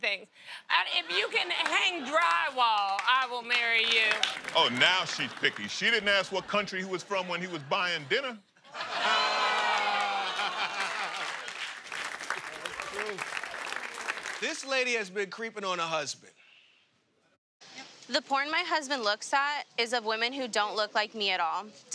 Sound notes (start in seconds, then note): 8.7 audience "ohhs"; 10.1 laughter